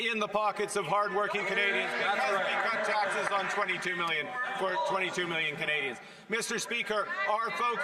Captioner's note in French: voix de l'interprète